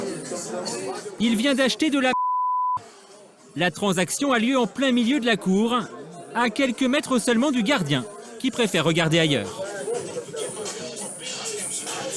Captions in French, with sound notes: Il achète [bip] au milieu de la cour d'exercice, à quelques mètres des gardes qui choisissent de chercher ailleurs.